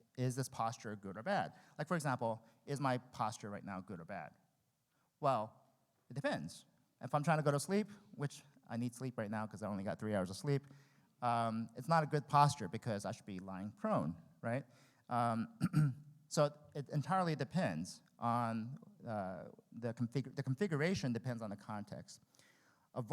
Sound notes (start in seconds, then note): 15.5 clears throat